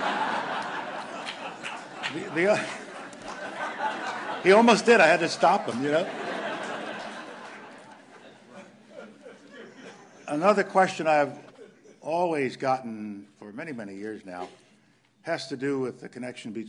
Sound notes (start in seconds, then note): 8.1 laughter